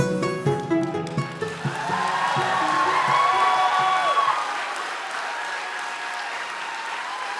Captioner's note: applause